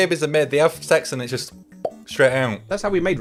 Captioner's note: pops